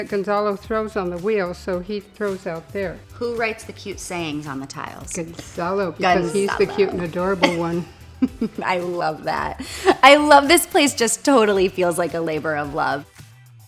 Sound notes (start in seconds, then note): 7.6 Jillian giggles